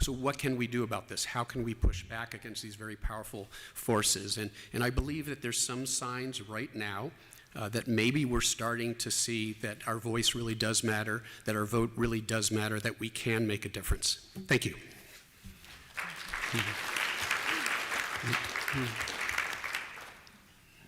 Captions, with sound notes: So what can we do about this? How can we push back against these very powerful forces? And I believe that there's some signs right now that maybe we're starting to see that our voice really does matter, that our vote really does matter, that we can make a difference. Thank you. [APPLAUSE]